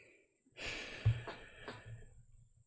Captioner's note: exhales